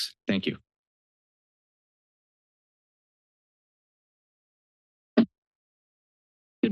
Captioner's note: silence